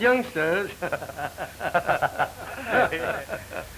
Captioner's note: laughs; laughing